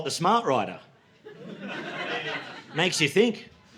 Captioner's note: laughter